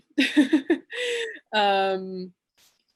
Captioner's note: she giggles